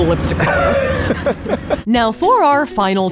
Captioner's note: laughs